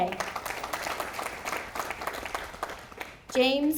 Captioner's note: audience applauding